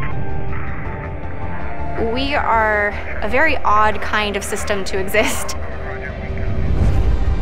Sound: laughing

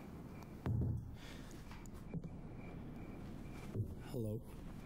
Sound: knocking on door

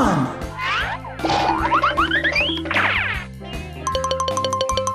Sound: various cartoon sound effects

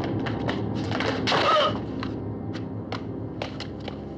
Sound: groans

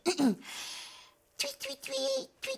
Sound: clearing throat

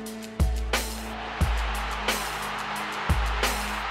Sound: crowd noises

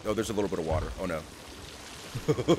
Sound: laugh

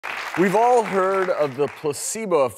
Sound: audience clapping

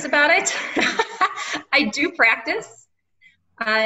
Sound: laughing

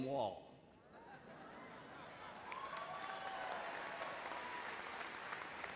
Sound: laughter; cheers and applause

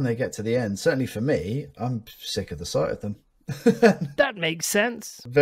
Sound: laughs

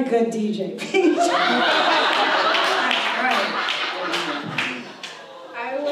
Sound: audience laughs

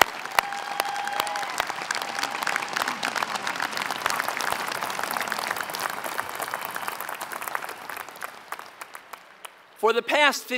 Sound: applause

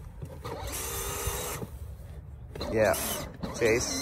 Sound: engine roars

